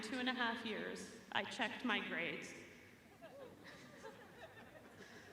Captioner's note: chuckling